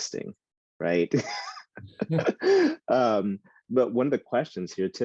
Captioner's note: laughing